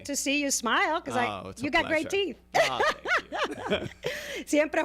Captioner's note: Hablando ingl\s